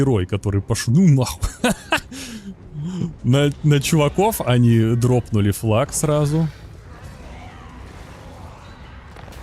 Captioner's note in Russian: смех